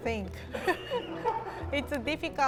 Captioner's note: laughs